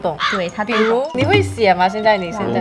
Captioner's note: 中文